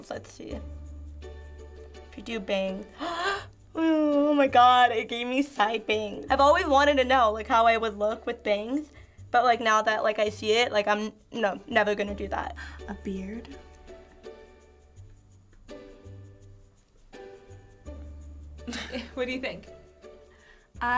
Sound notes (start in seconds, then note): 3.0 gasps; 12.9 gasps; 18.6 chuckles